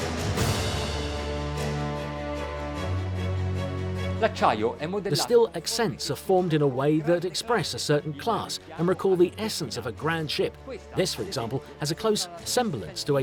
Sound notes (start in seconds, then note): 4.4 speaking in foreign language